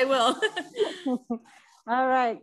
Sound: laugh softly

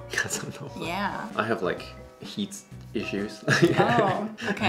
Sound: chuckles

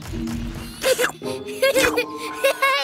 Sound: giggling

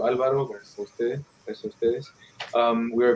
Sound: speaking in foreign language

